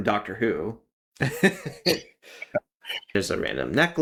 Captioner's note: laugh